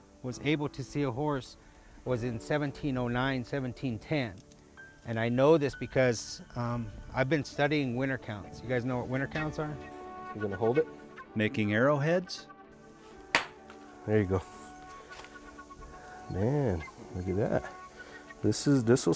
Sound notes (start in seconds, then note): 13.2 rock striking